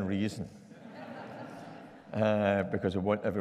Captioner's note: audience laughing